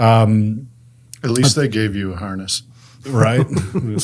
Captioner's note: laughs